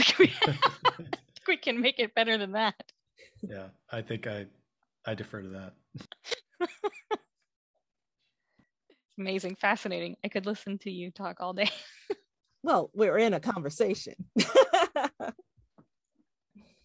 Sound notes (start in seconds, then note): 14.4 laughs